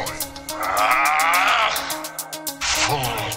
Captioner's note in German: Aaaargh!!